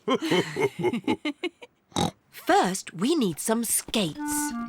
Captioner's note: laughs; laughs and snorts